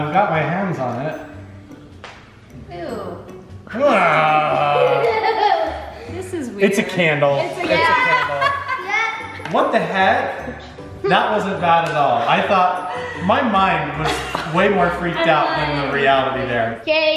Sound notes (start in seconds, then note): 3.7 groaning; 7.4 laughing